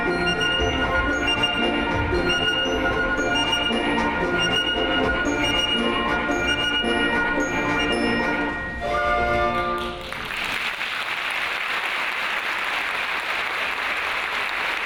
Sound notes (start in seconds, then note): 9.8 audience applauds